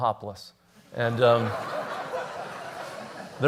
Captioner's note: laughter